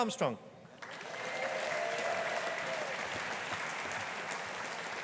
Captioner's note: audience applauding